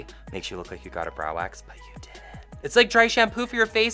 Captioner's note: whispers